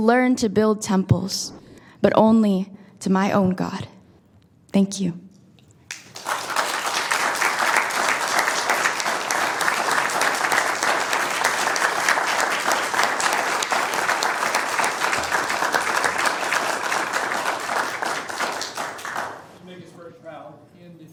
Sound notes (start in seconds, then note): 12.9 applause